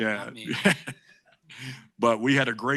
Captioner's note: chuckling